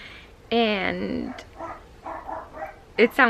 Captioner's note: dog barking